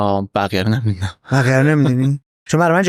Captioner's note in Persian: خنده